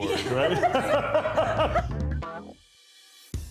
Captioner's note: laughing; upbeat music